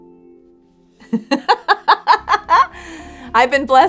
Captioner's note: soft music; laughs